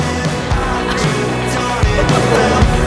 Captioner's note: laughter